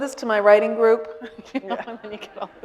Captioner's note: all laughing